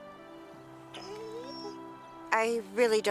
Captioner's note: Buck whimpers